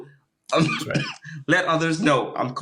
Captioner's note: coughing